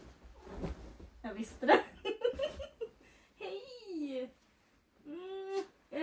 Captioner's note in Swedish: skratt